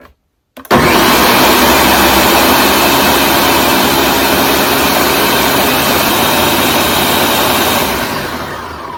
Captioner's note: blending up basil leaves